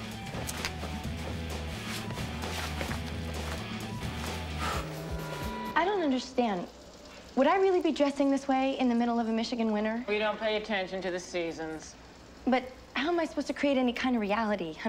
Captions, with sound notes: [ Exhales ] Would I really be dressing this way in the middle of a Michigan winter? We don't pay attention to the seasons. But how am I supposed to create any kind of reality?